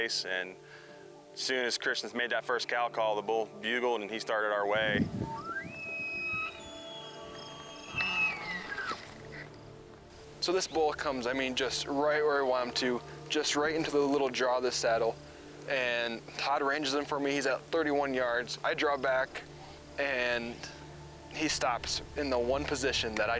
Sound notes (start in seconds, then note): 5.8 cow call